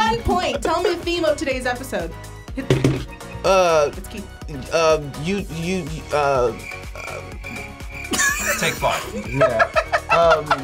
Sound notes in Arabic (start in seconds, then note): 5.5 تلعثم; 8.0 يضحك